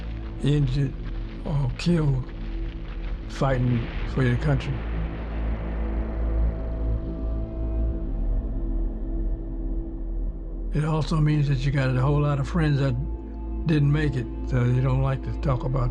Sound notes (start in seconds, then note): 3.8 explosion booms